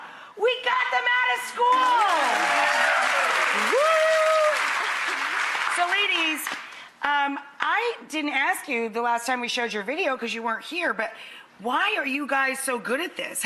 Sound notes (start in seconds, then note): 1.6 cheering; 4.5 clapping